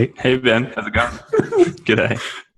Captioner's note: laughs